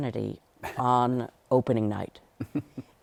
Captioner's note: laughs